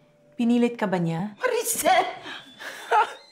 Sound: Maricel speaks Tagalog

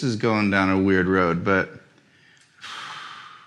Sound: sighs

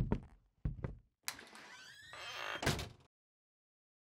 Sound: footsteps; door closing

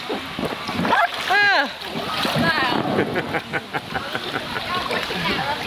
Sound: gasps and laughter

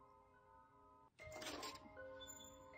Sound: door opening

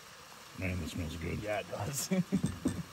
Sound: laughs

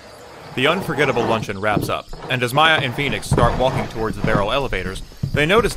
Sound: wooden chairs scraping on floor

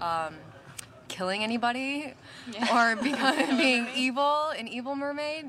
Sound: all chuckling

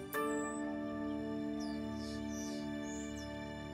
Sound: birds chirp

